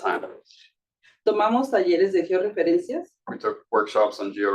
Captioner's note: speaking Spanish